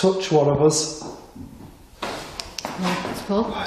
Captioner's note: knocks faintly